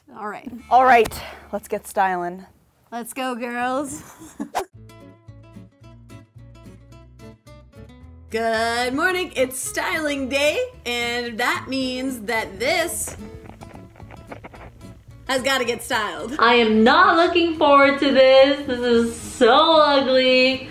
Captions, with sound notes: All right. - All right, let's get stylin'. - Let's go girls. (giggling) (soft music) Good morning. It's styling day and that means that this, has gotta get styled. - I am not looking forward to this. This is so ugly.